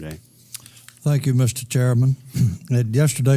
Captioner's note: cough